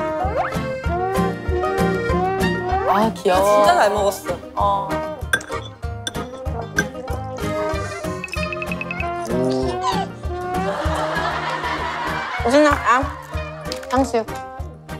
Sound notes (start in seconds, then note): 5.2 drinking